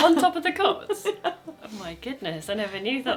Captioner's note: laughing